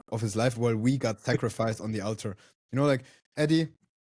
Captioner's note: laughs